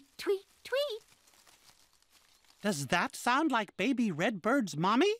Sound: rustling

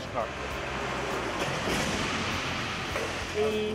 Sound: crash

